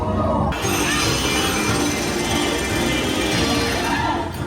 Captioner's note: jackhammer Pounding